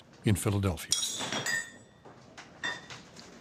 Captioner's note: glasses tinkling